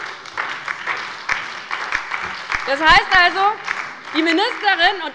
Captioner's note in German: Beifall bei der LINKEN und der SPD